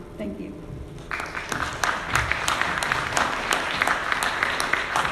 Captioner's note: audience clapping